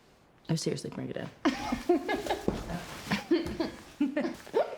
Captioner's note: laughs; Rachel and Claire laugh